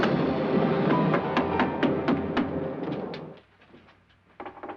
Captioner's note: fist thumping